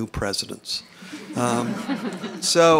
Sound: laughter

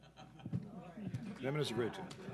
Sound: clapping

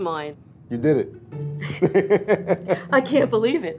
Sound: laughs

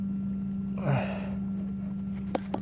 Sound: exhales

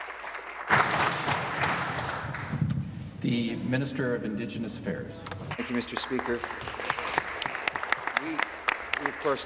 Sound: applause

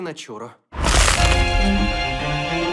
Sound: crunches loudly

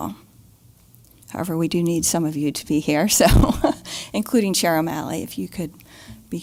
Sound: laugh

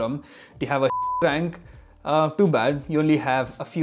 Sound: beep

